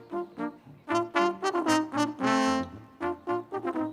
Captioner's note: none